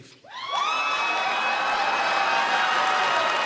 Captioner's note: cheers and applause